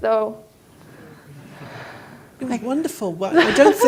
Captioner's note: audience chuckles; laughs